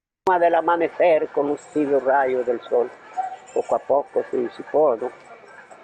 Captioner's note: speaking in foreign language